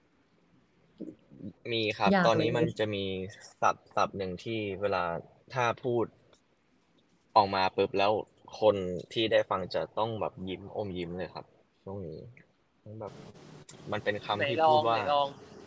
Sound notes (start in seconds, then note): 2.0 answering in Thai